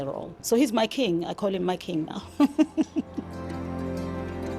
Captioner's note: laughs